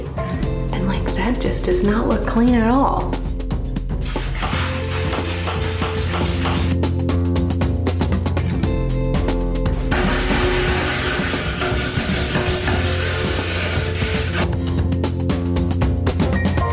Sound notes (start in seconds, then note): 3.9 spraying; 6.4 upbeat music; 9.6 bristles scraping; 14.0 upbeat music